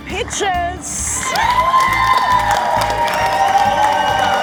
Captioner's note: audience cheering